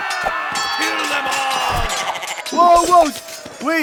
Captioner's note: goat bleating